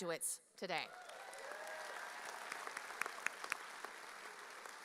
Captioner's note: audience cheering